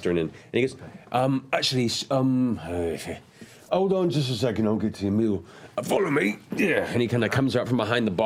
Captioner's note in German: ugh